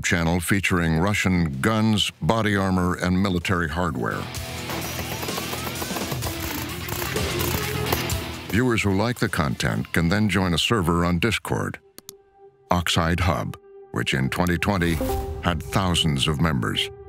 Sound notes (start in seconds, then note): 4.6 guns firing